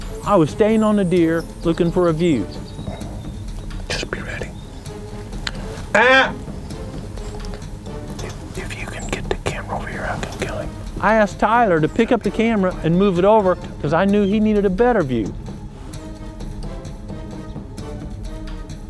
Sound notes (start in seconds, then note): 4.0 whispering